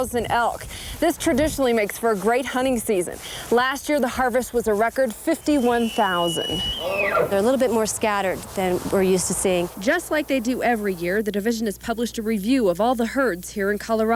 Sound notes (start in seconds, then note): 5.4 nats up of squeals